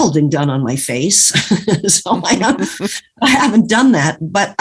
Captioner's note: laughs